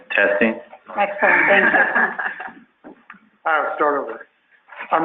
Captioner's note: laughing